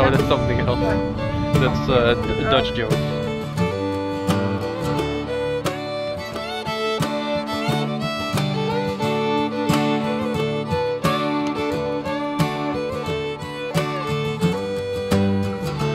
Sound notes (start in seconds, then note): 3.2 happy Country Music; 3.2 soft background chatter